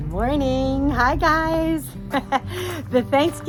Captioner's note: laughs